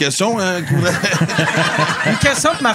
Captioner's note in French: rires